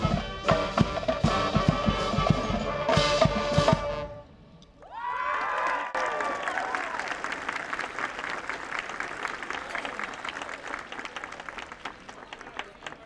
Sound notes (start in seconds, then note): 4.8 audience cheering